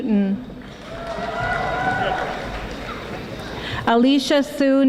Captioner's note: audience applauding